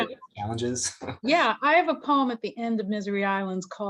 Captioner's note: chuckles